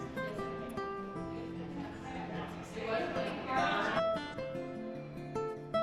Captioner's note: laughing